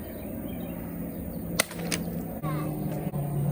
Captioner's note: cutting sound